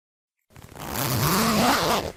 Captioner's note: zipper being opened FX